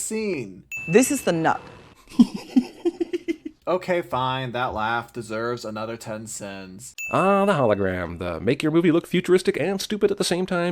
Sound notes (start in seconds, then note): 2.0 laughs